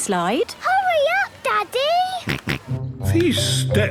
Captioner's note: George snorts